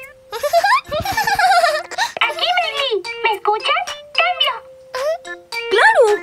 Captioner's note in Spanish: Risas